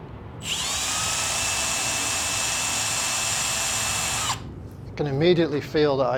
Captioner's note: drill noise